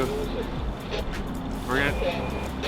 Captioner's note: radio static